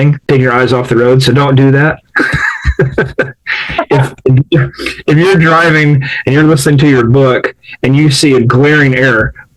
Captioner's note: laughs